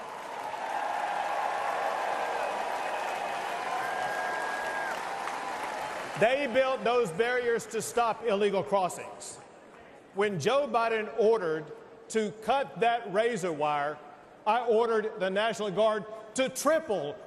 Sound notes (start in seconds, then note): 0.0 applause; 4.8 cheers and applause